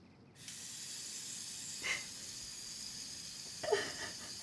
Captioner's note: water running; mother sobbing